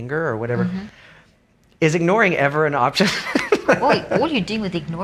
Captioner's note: laughs